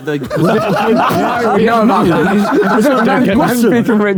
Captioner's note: group laughs